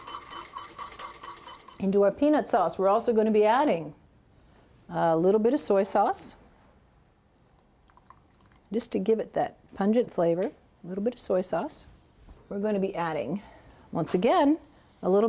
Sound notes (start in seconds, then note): 0.1 light scraping; 7.8 pouring